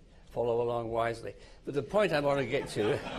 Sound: laughter

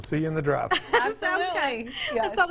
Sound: woman laughing

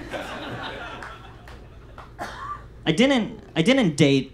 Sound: audience laughs

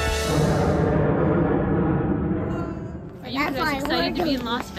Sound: jet roars overhead

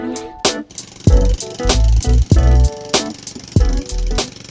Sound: jackhammer noise

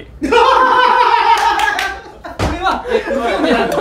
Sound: laughters

